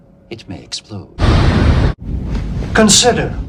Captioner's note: kaboom